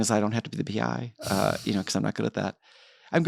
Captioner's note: chuckles